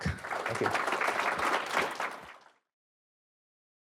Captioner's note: applause